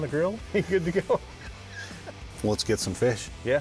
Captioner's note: laughs